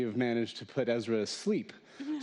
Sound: laughter

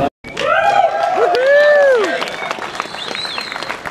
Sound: applause

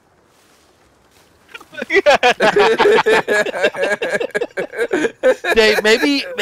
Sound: group laughter

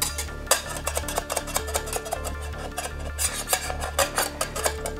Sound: soft intense music; pan scraping

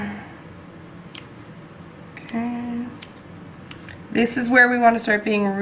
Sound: clipping sounds

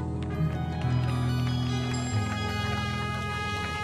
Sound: audience clapping

